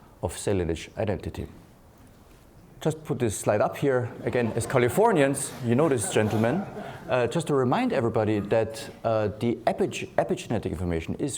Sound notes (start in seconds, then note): 4.1 laughing